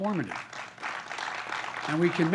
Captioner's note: applause